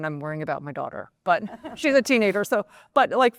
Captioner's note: laughter